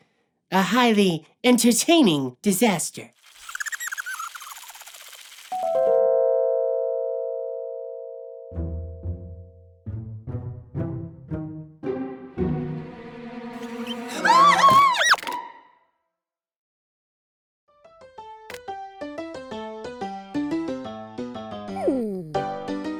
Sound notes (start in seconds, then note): 3.3 squeaking; 8.6 tentative music; 13.6 squeaks; 13.7 screams; 18.1 ragtime music